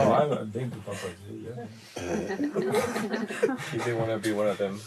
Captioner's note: laughter